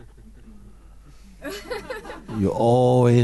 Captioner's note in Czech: smích